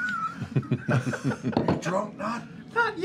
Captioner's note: laughter